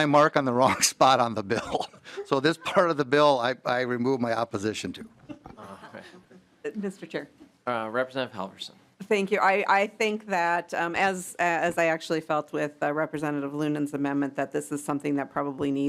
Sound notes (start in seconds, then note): 5.2 laughing